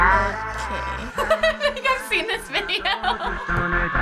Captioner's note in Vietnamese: cười rộ lên